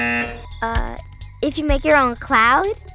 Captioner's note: buzzer